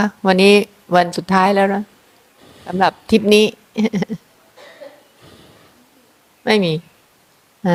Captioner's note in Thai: เสียงหัวเราะ